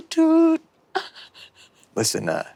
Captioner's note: Ally chuckles